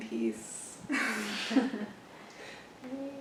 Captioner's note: laughs